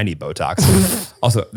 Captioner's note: laughs